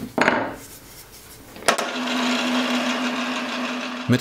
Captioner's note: motor hum